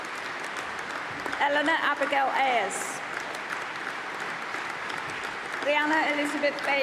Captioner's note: applause